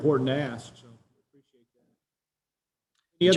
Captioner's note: audio cut out